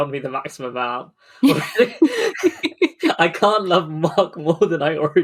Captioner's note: laughing; laughs